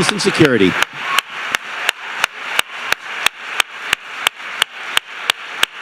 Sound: loud applause with cheers

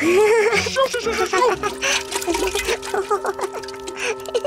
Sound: exclaims / groans

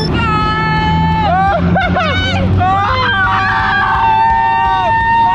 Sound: shouts and screams

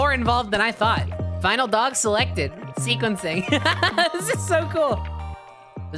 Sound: laughing

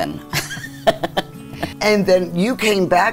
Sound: laughs loudly

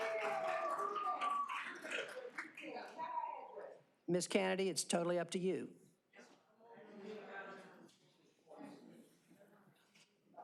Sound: cheers and applause

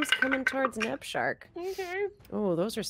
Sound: dice clatter

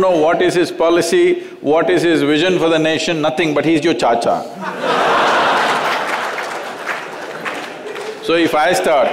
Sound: laughter

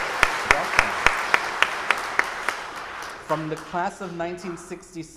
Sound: audience applauding

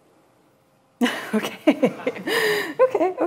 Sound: laughs

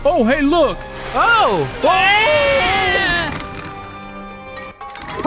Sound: dinosaurs yelling

